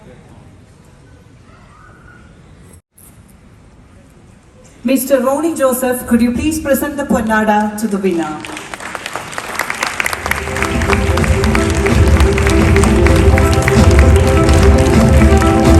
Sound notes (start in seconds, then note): 8.6 cheers